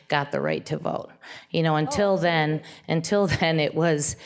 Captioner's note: laughs